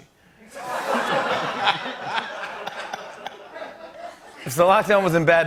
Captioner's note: laughter